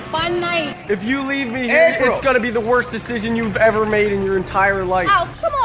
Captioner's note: Ryan shouting 'April!'